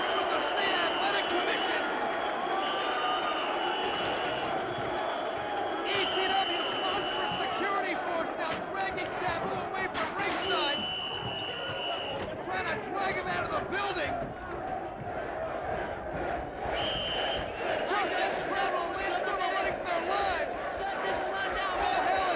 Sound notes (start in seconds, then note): 10.4 whistle blows